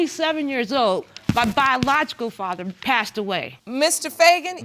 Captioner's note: none